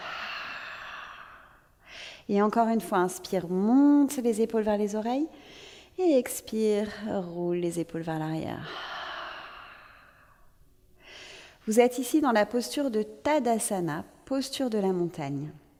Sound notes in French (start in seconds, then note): 8.7 longue expire